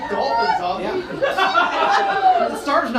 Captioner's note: audience laughs